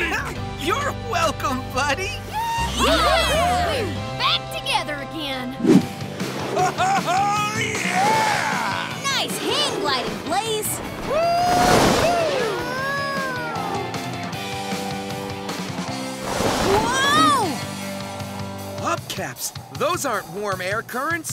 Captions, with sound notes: You're welcome, buddy. [cheering] We're back together again. Oh-ho-ho, yeah! Nice hang gliding, Blaze. Whoo hoo! Whoa! Whoa! Hubcaps. Those aren't warm air currents,